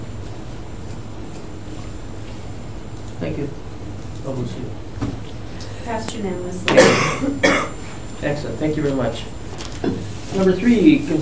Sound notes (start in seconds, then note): 6.6 coughing